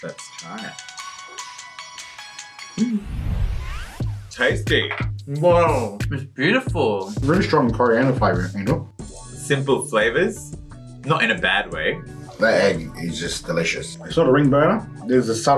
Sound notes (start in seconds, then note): 0.0 upbeat music; 5.7 mouth full